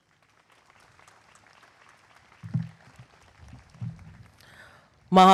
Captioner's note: applause